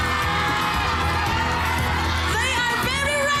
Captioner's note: overlapping screaming